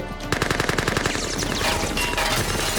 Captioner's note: gunfire